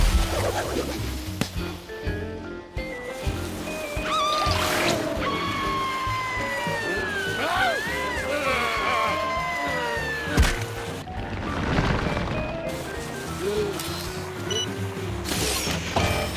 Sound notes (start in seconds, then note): 8.0 grumbles; 12.9 gasps